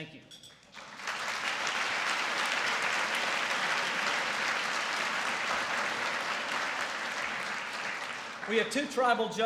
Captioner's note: applause